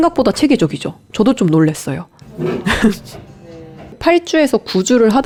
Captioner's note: haha